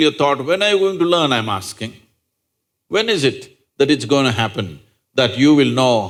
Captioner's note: none